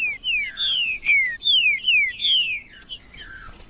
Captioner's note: trinca ferro cantando